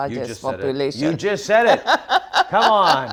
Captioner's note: Ngozi laughs